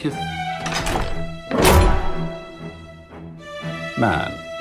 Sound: locks clanking

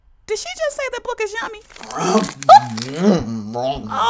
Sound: sound of chewing, swallowing

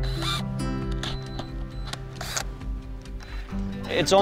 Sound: drill whirring

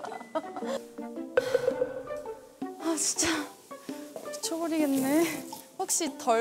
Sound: one person sighs increasingly

